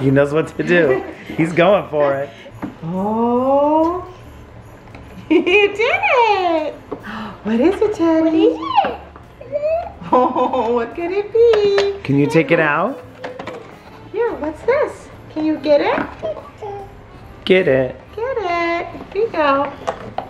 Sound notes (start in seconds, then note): 7.0 gasps; 9.4 chuckles; 16.2 babbles